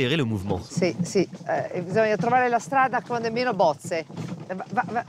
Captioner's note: speaks in Italian